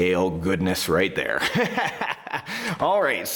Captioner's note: laughing